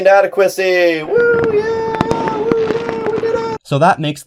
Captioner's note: mildly-enthused cheering